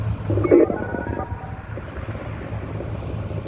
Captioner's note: telephone noise